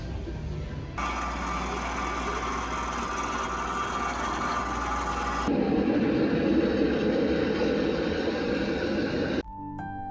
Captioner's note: Monument sound effects